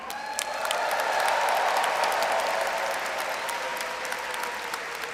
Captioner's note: audience cheers and applauds